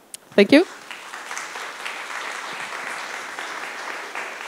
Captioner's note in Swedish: Applause